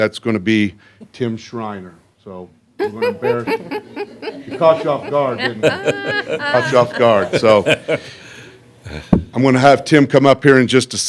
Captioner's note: laughter